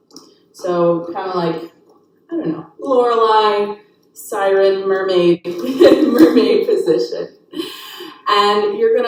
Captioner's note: chuckles